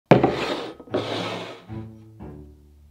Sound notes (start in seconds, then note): 0.1 bowl sliding; 0.8 quirky music playing in background throughout video